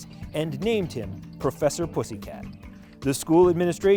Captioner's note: none